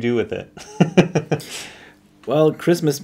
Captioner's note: laughs